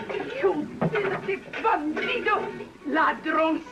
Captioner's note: speaking spanish